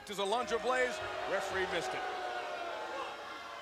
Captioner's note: crowd booing